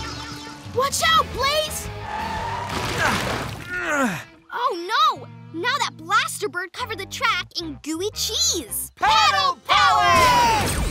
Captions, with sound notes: Watch out, Blaze! [grunting] Oh, no! Now that blaster bird covered the track in gooey cheese! Paddle power!